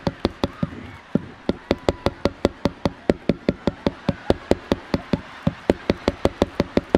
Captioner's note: audience laughing; microphone tapping; microphone scraping